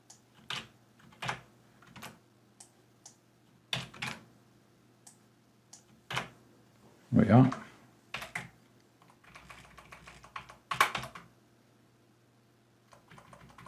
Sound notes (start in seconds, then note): 9.0 typing